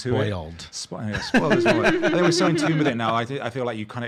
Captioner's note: laughing